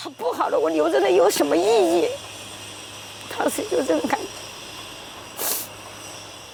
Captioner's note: speaking Mandarin